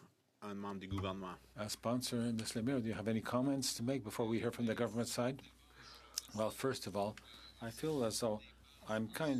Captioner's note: speaking French